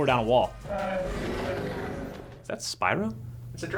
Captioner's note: roaring